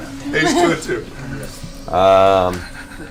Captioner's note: all laugh